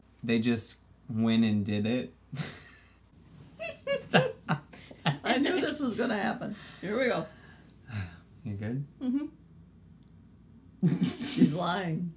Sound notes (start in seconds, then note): 3.5 laughs; 7.8 sighs; 10.8 laughs